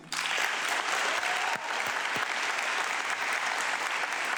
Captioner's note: audience clapping